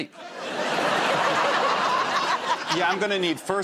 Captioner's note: laughter